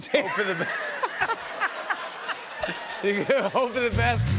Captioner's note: laughter